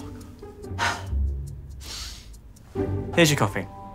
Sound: frustrated sigh; exhale; inhale

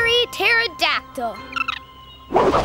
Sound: chirping

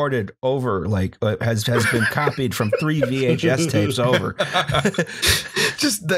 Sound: laughter

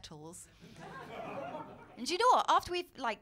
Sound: laughter

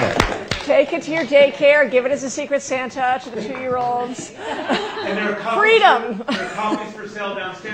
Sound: laughter

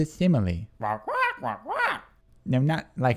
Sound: squawking

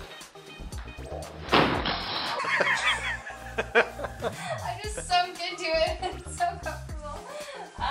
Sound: laughs; laughter

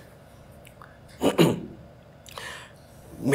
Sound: clears throat

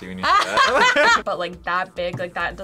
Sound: both laugh

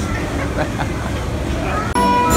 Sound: laughter

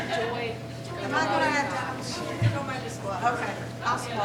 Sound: laughing; faintly speaking

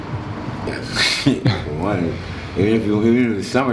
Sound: chuckling

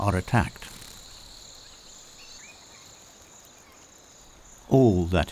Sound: birds chirping

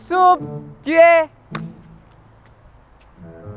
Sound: snap

